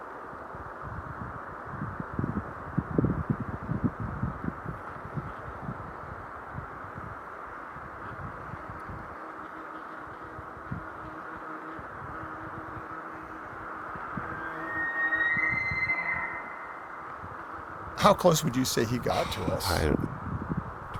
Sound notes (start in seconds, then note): 14.2 distant Bull Elk Bugle